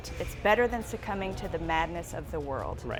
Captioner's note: none